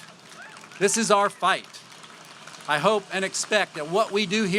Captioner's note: applause